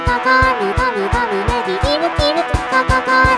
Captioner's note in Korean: 끼룩끼룩